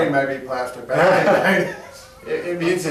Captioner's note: laughing